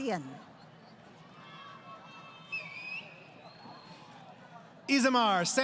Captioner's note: crowd Cheering